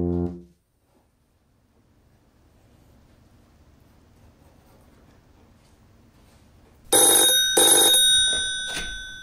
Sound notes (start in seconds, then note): 6.9 telephone rings